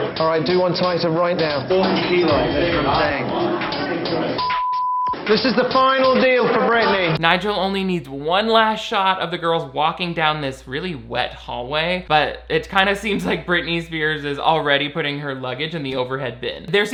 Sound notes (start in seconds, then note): 1.8 group chattering; 4.4 beep